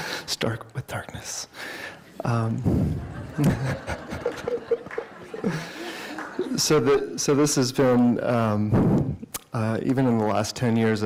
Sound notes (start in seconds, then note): 2.7 laughter